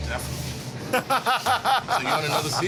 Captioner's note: laughs